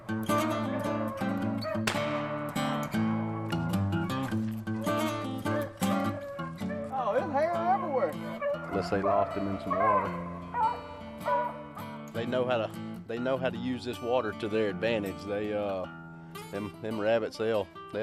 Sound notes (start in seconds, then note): 1.8 gun fires